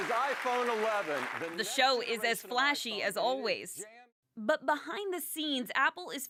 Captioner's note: applause